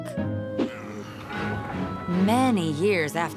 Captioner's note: grunting